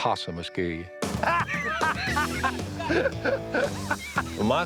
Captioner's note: laughter